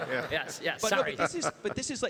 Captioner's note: everybody laughs